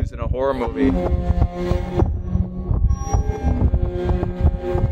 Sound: wind whooshing

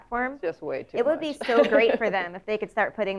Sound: laugh

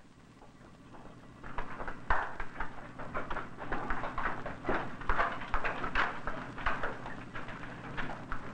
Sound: cow trotting

